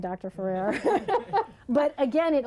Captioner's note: laughter